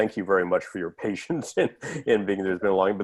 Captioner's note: laughter